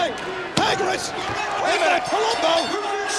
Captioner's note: bell rings